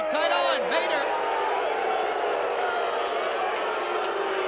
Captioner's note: audience booing